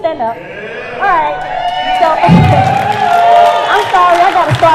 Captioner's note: cheers and applause